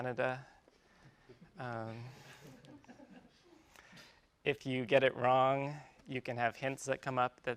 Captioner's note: laugh